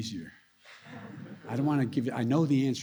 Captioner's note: laughter